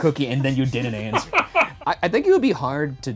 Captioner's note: laughing